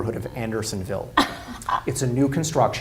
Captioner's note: laughs